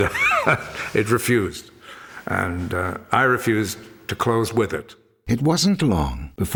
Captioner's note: laughs